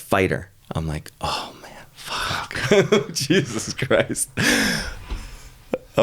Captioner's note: laughing